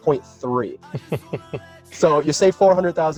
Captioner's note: laughs